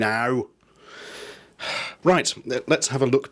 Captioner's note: he sighs